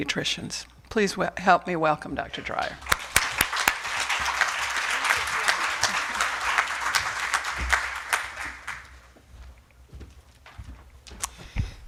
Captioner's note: applause